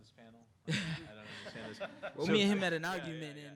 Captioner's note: audience laughing